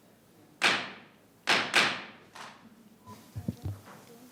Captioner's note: gavel banging